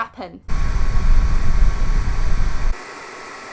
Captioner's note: loud wooshing dryer noises